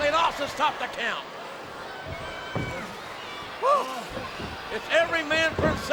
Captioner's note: crowd yelling